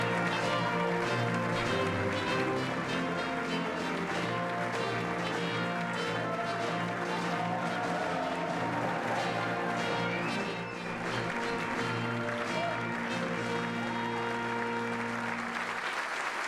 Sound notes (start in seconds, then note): 2.4 applause